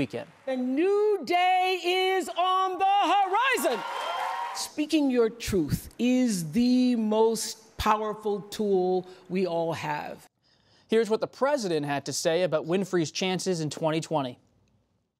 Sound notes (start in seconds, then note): 3.1 cheers, applause